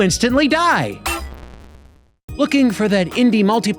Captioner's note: clangs